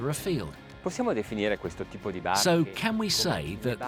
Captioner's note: speaking in foreign language